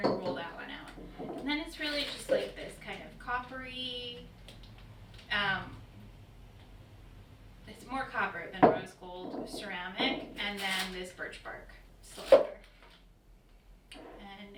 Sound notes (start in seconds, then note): 0.9 knock; 13.7 knock